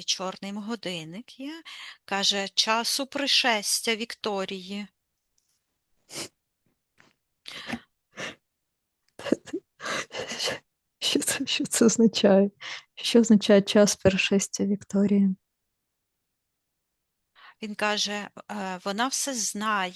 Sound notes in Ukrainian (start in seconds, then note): 6.1 сопіння